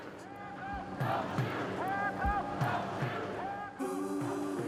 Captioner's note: people protesting